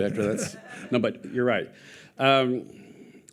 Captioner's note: audience laughing